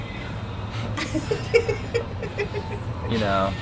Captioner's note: laughter